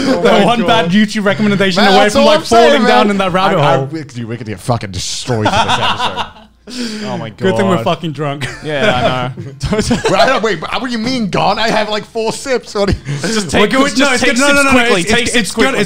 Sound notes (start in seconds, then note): 5.4 laughing; 8.4 laughing; 8.4 laughs